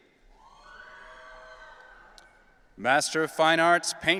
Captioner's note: audience cheering